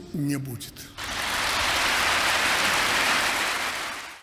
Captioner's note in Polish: Aplauz